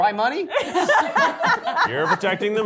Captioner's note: cast and crew laughing